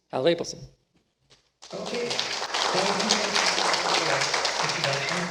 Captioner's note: applause